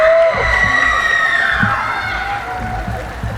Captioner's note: cheering